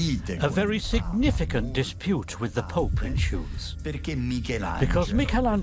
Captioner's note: in Italian